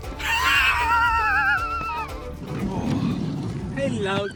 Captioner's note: laughing